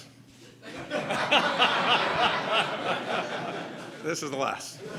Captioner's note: laughter